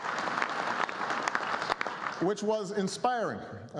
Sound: applause

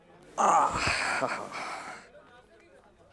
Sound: scoffs

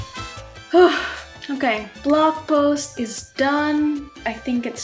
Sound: sighs

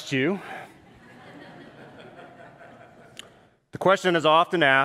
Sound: congregants laugh

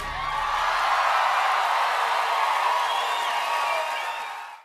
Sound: cheering and applause

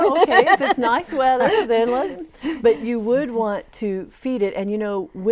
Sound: laughing

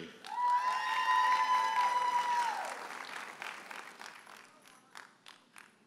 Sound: audience hollers and applauds

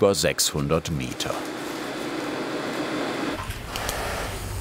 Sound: machines roar in the background

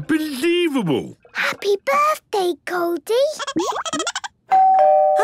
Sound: Goldie giggling; doorbell ringing

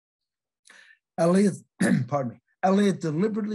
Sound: clears throat

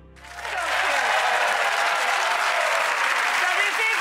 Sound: applause

